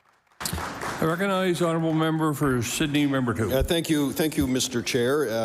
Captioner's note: applause